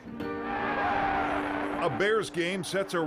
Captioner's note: crowd cheering